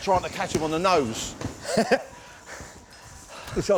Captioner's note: laughs